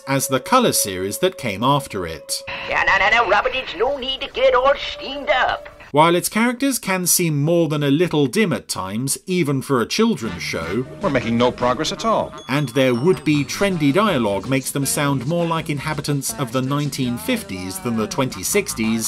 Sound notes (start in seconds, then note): 2.3 voice On Radio